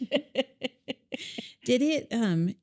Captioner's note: laughing